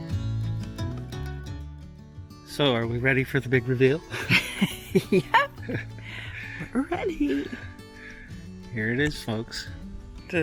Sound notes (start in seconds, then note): 4.1 both laughing